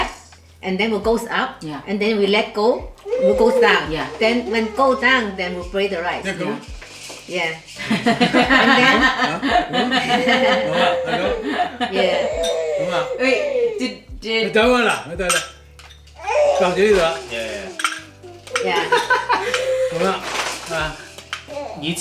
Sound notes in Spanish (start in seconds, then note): 11.5 Risas